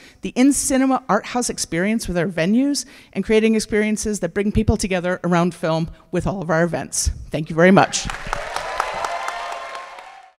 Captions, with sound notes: the in-cinema arthouse experience with our venues, and creating experiences that bring people together around film with all of our events. Thank you very much. [cheers] [applause]